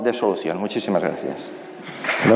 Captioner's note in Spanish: Aplausos